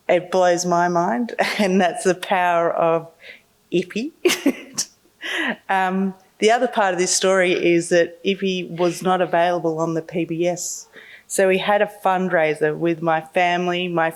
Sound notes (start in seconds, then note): 5.2 laughing